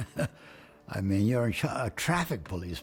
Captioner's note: laughs